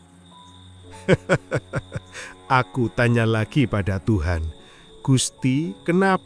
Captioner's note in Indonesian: tertawa